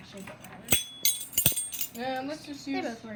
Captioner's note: clink Clink Clink